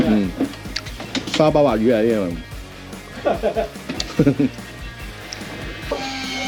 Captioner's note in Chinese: 哈哈